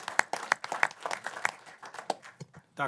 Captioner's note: applause